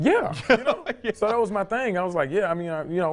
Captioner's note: host laughing